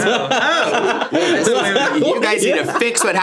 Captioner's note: everyone laughs